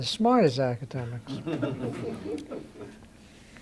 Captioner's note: laughter